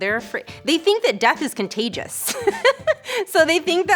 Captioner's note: giggles lightly